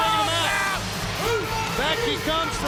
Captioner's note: Rick barking